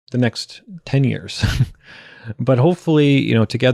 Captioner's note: chuckles